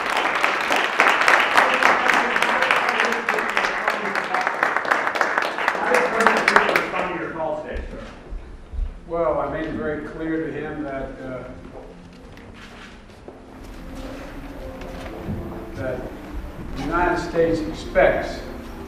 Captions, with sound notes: >> THANK YOU EVERYONE. [ APPLAUSE ]